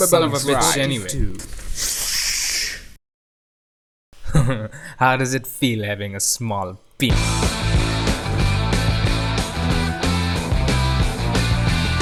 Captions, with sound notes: (chuckles) how does it feel having a small p-